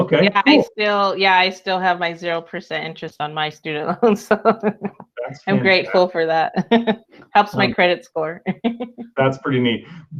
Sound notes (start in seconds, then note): 5.1 laughs; 6.6 chuckles